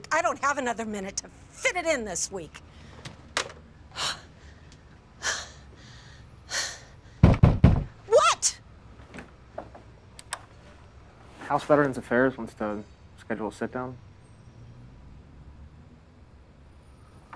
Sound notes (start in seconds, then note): 3.0 phone slams down; 3.9 Kate sighing; 7.2 pounding on door